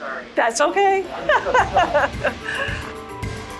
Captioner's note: laughing